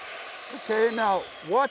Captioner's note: grinder running